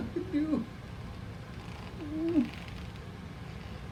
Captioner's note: sobbing